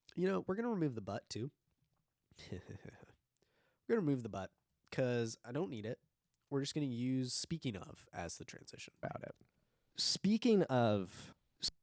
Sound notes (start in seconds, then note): 2.4 chuckles